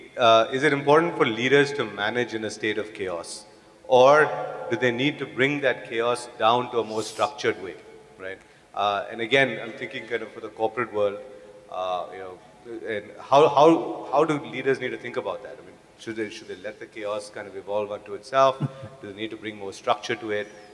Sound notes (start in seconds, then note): 18.5 Sadhguru laughs